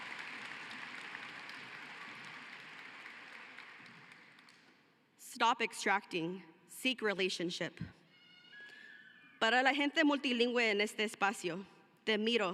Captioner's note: cheering and applause